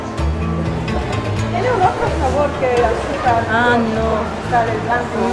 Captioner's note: in Spanish